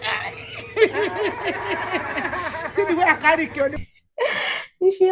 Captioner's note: sounds of joy